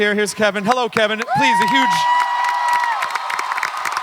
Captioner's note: audience cheering